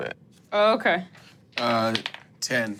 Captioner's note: dice rolling